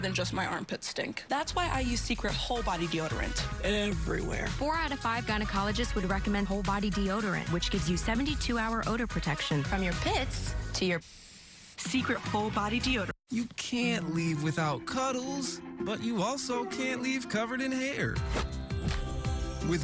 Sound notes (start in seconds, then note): 10.2 SFX: deoderant being sprayed